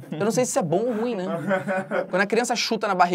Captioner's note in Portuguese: risadas